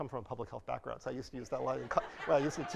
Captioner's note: audience laughing